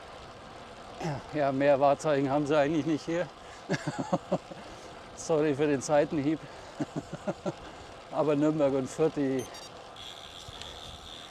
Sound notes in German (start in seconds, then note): 3.6 gelächter